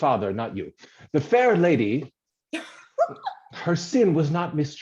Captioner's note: she giggles